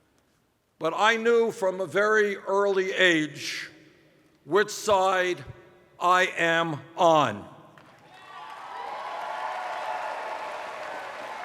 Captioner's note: cheers